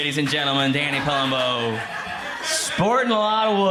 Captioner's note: crowd laughs